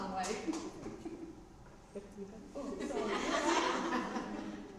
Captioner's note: laughter